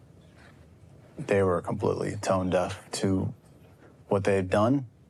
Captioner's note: none